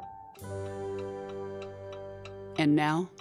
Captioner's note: clock ticking